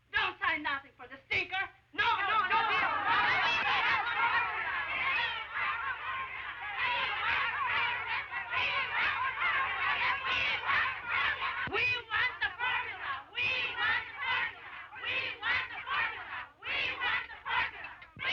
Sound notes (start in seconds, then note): 3.1 women shout and chant; 7.1 chanting